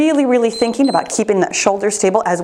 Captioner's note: timer beeps